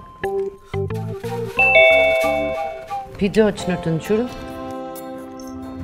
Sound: doorbell rings

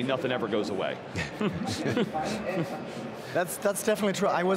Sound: chuckling

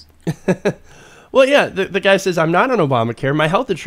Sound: laughing

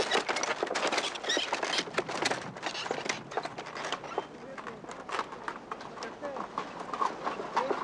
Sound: noise of carts

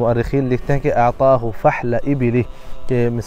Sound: Arabic

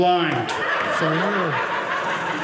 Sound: audience laughing

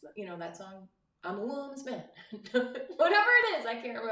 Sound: laughs

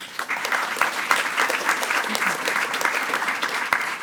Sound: attendees clapping

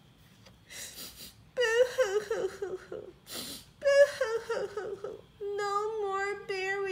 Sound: crying

